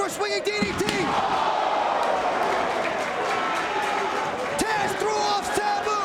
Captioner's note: spectators exclaiming